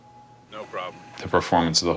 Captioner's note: bell ringing